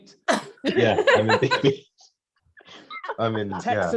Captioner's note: all laughing